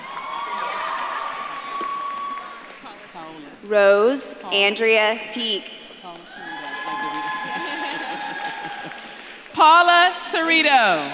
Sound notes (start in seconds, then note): 0.0 audience claps and cheers; 5.8 audience claps and cheers